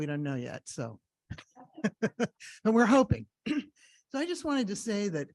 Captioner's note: laughs